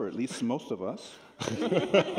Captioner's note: laughter